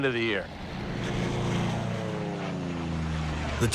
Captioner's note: planes whooshing